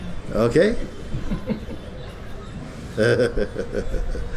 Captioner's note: laughter